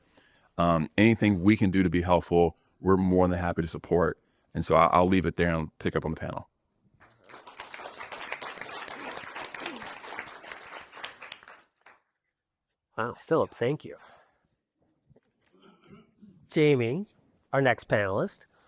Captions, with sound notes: Anything we can do to be helpful, we're more than happy to support. I'll leave it there and pick up on the panel. [APPLAUSE] Wow, Philip, thank you. Jamie, our next panelist.